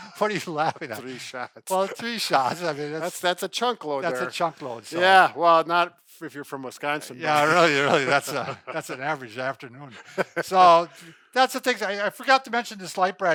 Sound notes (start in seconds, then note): 0.0 laughs; 7.3 laughs; 10.5 laughs